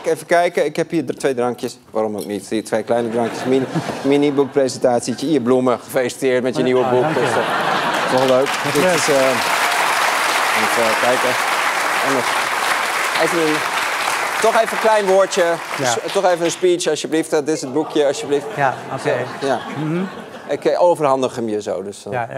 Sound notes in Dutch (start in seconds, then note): 6.6 gelach; 7.6 applaus